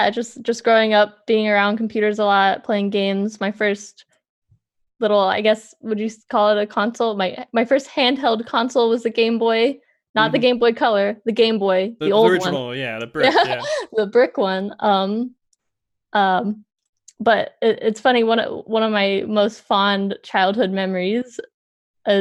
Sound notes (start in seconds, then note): 14.8 laughs